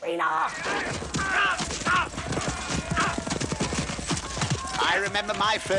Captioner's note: knights shouting